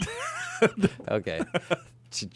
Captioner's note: laughs